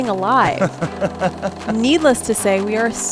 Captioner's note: laughing